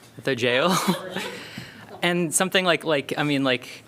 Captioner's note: laughter